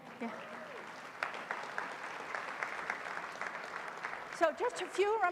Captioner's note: applause